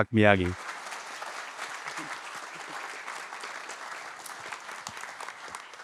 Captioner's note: audience applauding